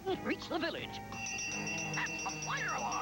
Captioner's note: bell rings